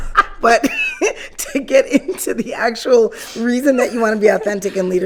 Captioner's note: laughing